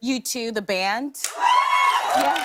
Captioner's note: cheers and applause